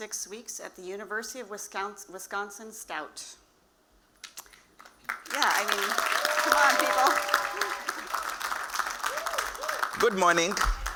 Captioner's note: applause